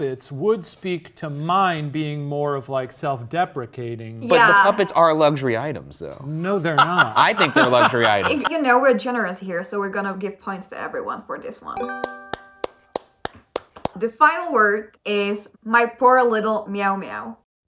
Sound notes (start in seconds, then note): 6.5 laughs